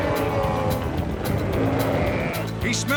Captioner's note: bellowing